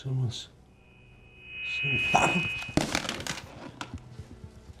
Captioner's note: loud screeching noise